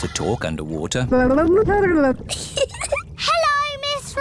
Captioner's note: gurgles; giggles